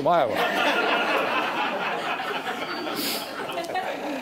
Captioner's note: audience laughing